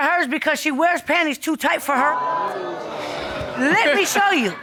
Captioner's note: audience exclaiming